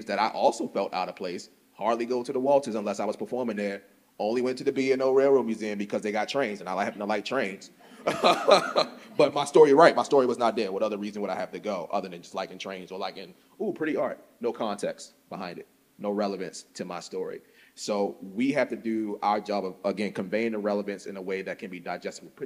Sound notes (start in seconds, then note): 7.9 laughs